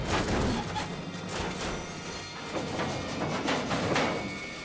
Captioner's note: suspenseful music; metal creaks